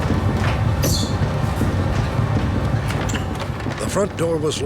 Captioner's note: heart beating